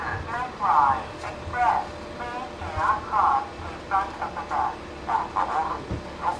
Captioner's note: bus loading announcement plays